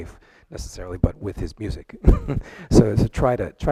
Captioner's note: chuckles